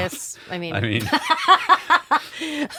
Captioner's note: laughing